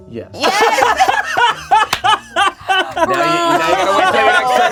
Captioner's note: everyone laughs